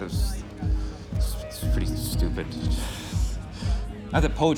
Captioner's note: laughs